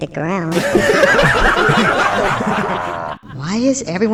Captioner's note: the monsters laugh